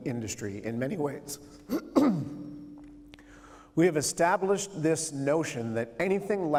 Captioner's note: clears throat